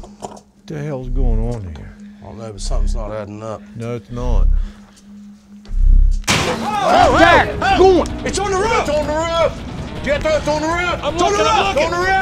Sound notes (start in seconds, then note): 6.2 loud crash; 6.4 yelling